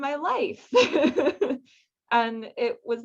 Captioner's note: laughs